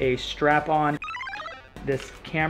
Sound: electronic beeping

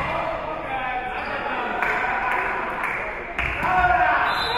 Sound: spectators cheering and applauding; spectators shouting encouragements; whistle being blown

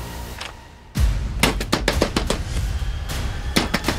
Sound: bangs the door

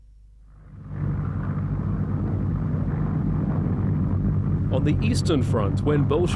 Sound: airplane propellers running

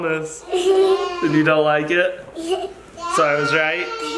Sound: chuckles; chuckles

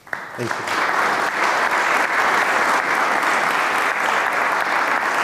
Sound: attendees applaud

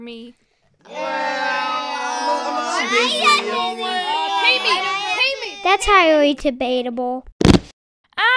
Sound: chatter

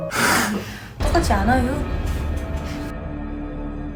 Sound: growl

